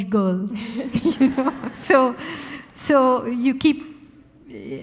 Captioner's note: audience laughing